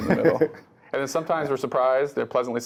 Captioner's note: laugh